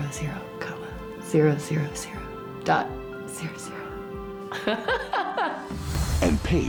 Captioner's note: laughing